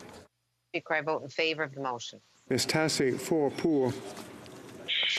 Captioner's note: speaking FRENCH